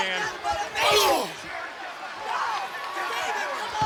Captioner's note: crowd yelling; Booker grunting